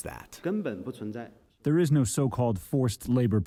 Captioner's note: through translator